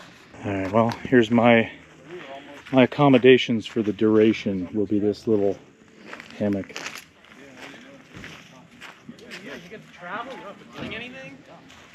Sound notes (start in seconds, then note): 7.9 feet crunching